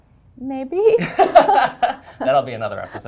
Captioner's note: laughter